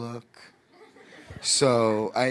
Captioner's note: audience laughing